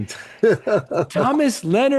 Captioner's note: laughter